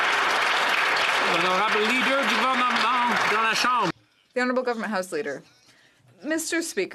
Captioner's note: some Applause